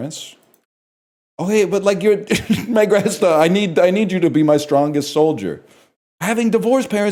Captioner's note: cracks up